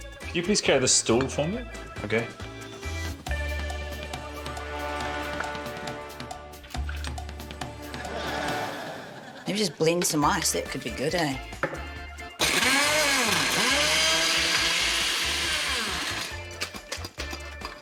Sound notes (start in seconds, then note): 7.9 laughter; 12.3 blender whirrs